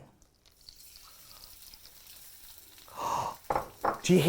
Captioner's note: sizzling sounds can be heard